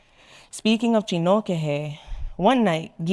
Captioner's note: speaking in foreign language